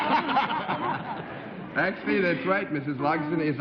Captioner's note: laughter